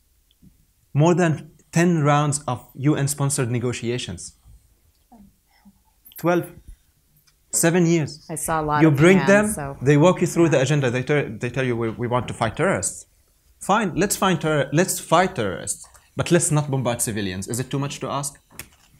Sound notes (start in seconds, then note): 5.3 whispers